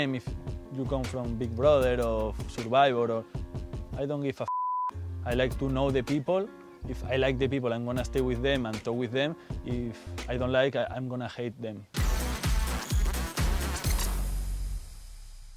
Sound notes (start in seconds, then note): 4.4 beep; 11.9 upbeat music